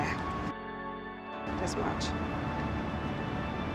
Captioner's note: voiceover